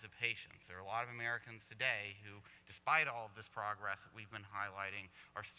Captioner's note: none